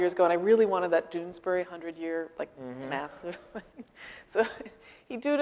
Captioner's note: laughing